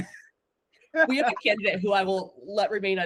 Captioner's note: laughing